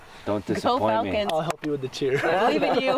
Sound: clapping

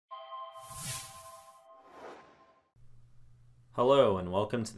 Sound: swoosh

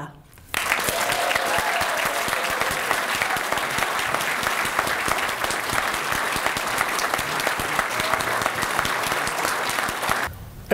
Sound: applause

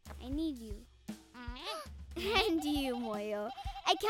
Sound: Moyo bleating

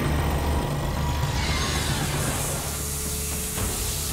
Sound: high-pitched squealing; hissing

